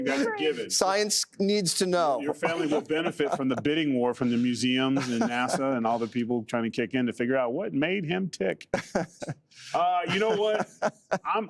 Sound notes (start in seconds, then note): 4.8 laughter